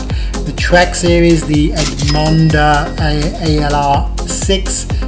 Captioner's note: dings